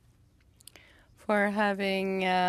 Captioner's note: speaking French